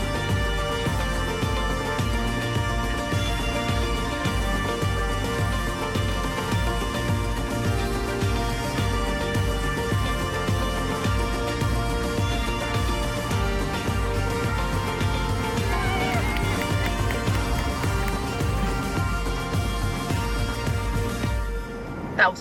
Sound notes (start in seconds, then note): 0.2 upbeat music; 15.4 people cheering; 19.0 upbeat music